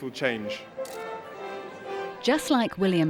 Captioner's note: bright music; people chattering